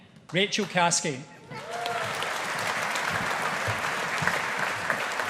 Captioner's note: audience applauding